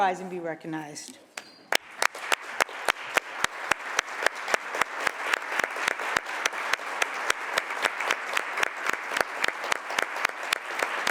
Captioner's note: applause